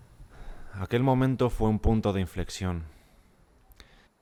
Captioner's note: voiceover